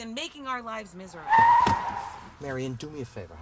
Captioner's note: tires screeching